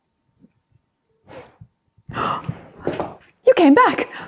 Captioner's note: gasp